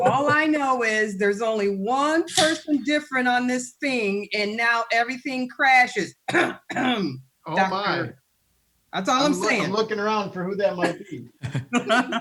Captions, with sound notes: - All I know is there's only one person different on this thing and now everything crashes (clears throat). That's all I'm saying. - I'm looking around for who that might be.